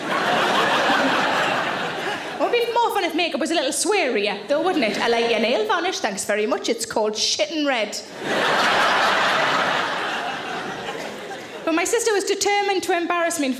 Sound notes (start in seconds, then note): 0.0 audience laughing; 8.1 audience laughing